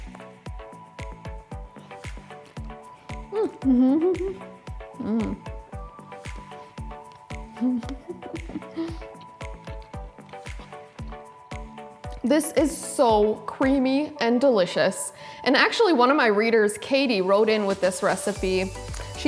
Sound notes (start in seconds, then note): 0.2 soft upbeat music; 3.3 laughs; 7.5 laughs; 9.7 soft upbeat music